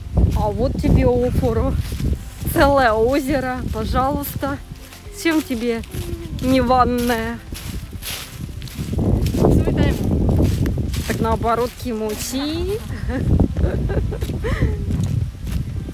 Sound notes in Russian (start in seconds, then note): 12.8 смех